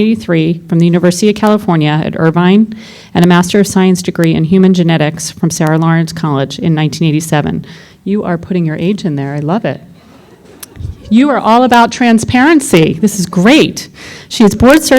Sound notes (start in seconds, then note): 10.0 laughter